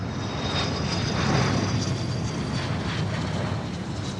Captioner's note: plane engine roaring